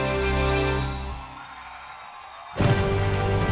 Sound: aplausos

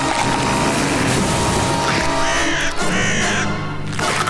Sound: squawking; cracking, crying

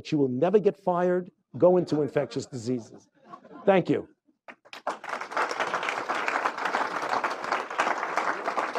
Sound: applause

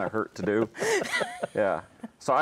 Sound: laughing

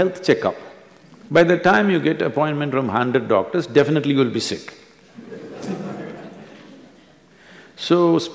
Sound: few laugh

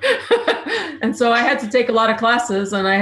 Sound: laughs

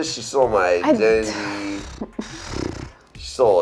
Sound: groans

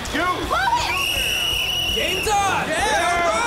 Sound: whistle blowing

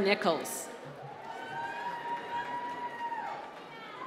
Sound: applause

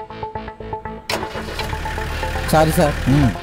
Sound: car engine start

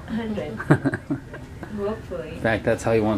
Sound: laughter

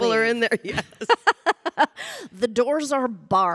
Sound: Samantha laughing

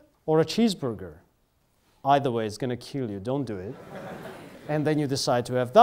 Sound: students laugh

